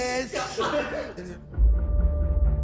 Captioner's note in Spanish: Risas